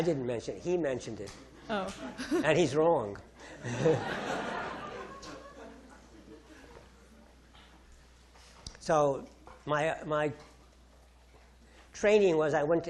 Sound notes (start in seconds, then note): 3.6 audience laughing